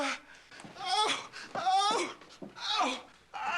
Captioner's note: Hoss yelling in pain